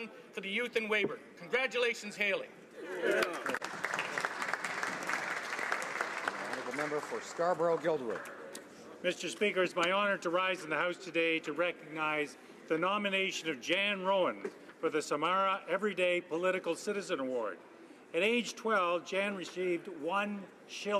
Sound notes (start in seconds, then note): 6.4 some Applause